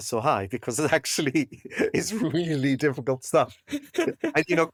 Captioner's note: laugh